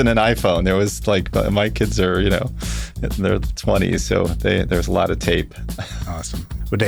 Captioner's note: laughs